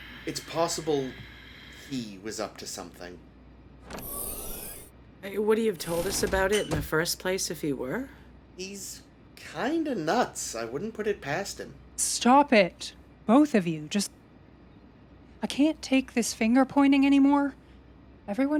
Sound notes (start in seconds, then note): 3.8 door opening